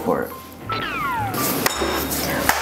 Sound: Coco's laser

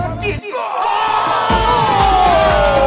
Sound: cheering

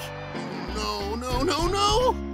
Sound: none

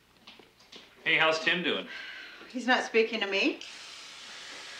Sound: water gushing

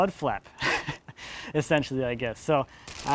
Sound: snickers

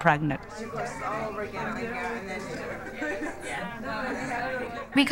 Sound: background chatter, - indistinct

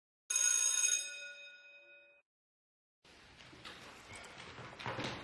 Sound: bell rings

